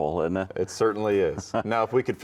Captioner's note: chuckling